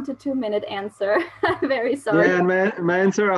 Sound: laugh

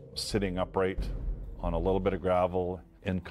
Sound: voiceover

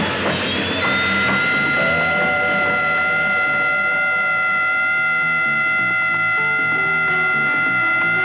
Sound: whistle blowing

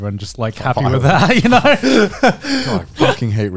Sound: both chuckling

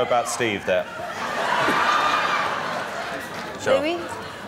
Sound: more Laughter

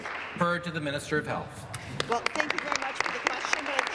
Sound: applause

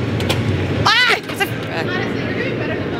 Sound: catching and screaming

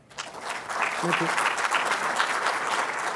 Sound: applause

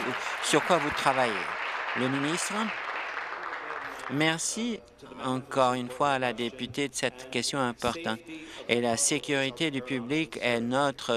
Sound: applause

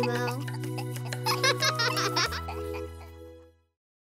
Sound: giggles

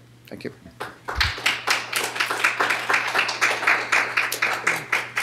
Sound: applause

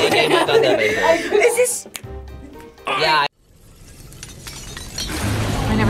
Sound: girl snaps fingers; stones clanging together

